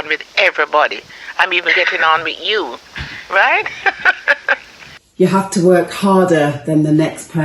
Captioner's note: laughs